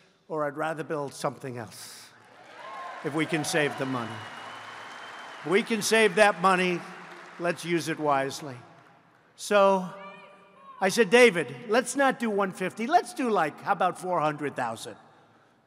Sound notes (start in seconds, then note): 4.3 applause